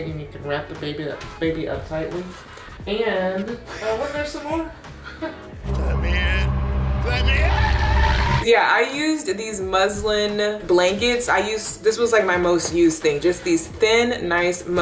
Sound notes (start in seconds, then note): 5.3 laughs softly; 5.6 air whooshing